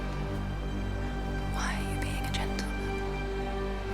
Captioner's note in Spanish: susurrando